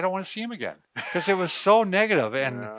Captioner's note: laughs